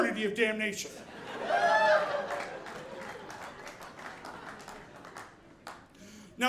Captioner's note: audience clapping